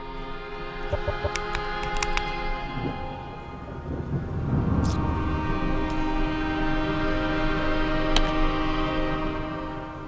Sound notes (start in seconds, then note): 0.8 ident clicks; 4.9 ambient music